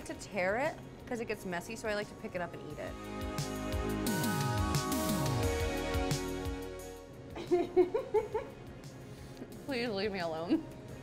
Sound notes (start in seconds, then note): 2.8 upbeat music; 7.3 laughing